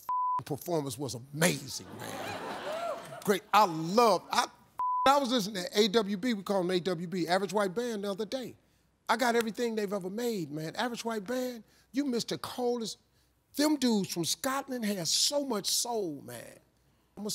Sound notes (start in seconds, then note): 0.0 beep; 4.8 beep